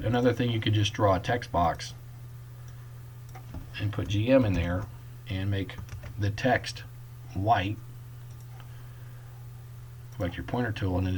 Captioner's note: typing; click